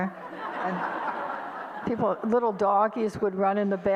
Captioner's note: audience laughter